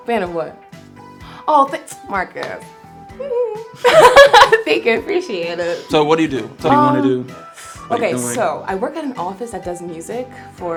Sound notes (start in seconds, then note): 3.8 laughs